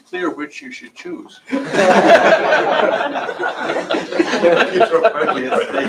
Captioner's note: laughter